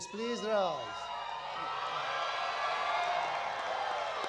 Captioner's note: applause